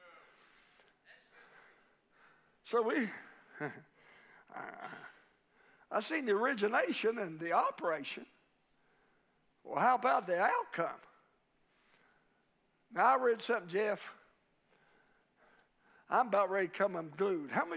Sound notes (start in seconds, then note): 4.5 preacher laughing